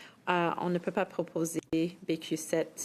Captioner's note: speaking French